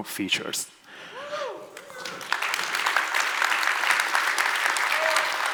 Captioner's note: audience applauds